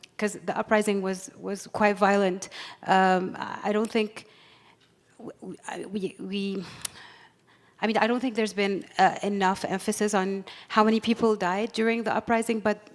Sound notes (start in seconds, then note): none